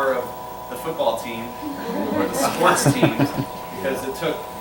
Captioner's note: laughter